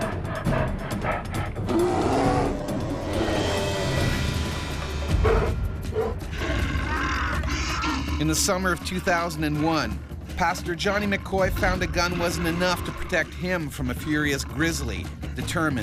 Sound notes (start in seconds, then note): 2.1 bear growling; 7.2 yelling